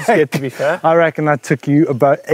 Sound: laughter

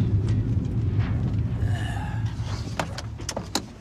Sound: sighs

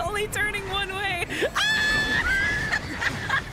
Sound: laughter; screaming; laughter

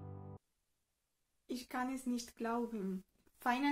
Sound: in German

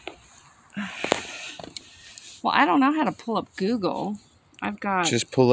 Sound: sigh

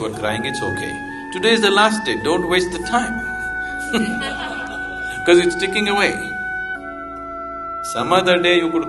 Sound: laughter

